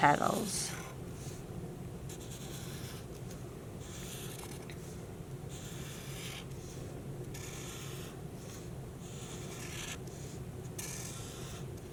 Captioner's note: marker scratching